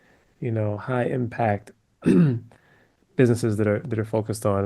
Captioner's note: cough